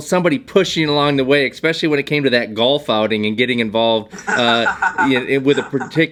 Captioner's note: laughter